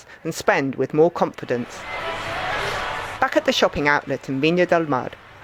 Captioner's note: crowd cheering